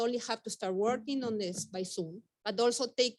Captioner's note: fingers tapping